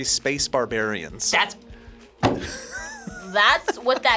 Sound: laughs

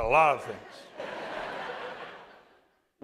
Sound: laughter

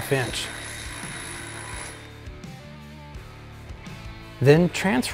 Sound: drill whirring

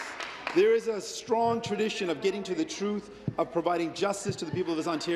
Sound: applause

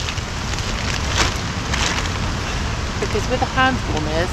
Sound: rain

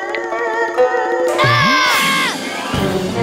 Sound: screaming

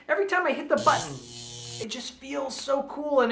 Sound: buzzing

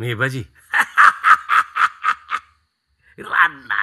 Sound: laughs

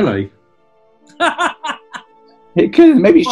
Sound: cackling

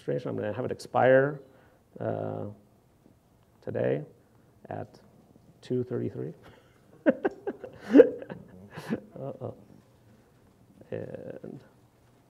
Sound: laughs

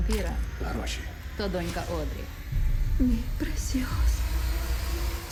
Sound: woman 3, in Spanish

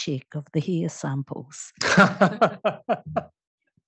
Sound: laughter

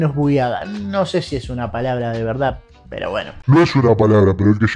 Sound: in Spanish

